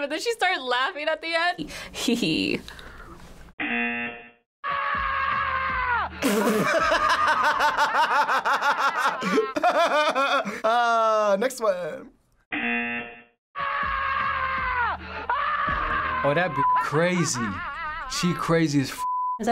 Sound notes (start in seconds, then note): 2.9 buzzer; 4.4 bursts out laughing; 4.6 woman screaming; 12.5 buzzer; 13.4 laughs; 13.5 woman screaming